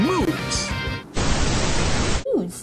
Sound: static

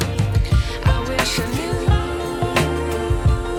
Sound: sound of delicious eating

